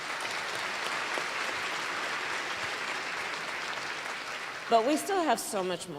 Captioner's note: applause